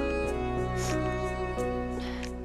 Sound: sniffs

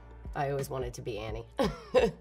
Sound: laughs

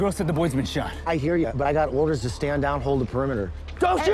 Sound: none

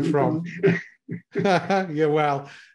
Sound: laughing

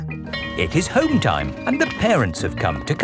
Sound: bell tolling

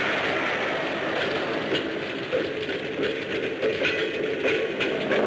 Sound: explosion booms; train rattles

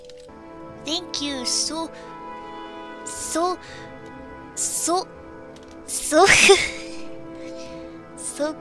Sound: laughs

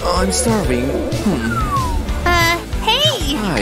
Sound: sighs

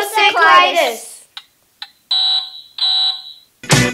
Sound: timer goes off

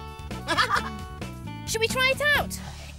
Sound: Iver laughs

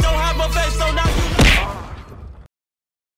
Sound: fist sound

